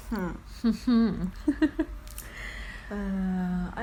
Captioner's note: laughs